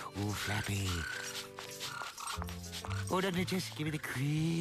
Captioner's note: squeaking